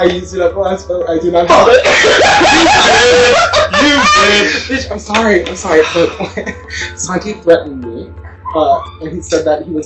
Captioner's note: cackling